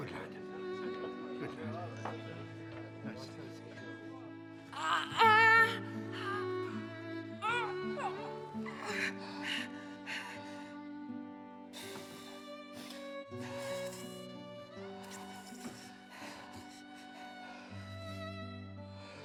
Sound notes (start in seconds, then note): 4.8 groaning